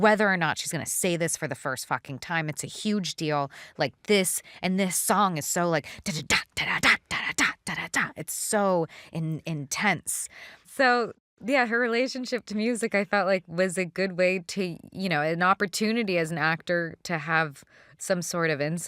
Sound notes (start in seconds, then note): 5.7 imitates fast drumbeat